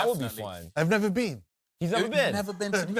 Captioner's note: accented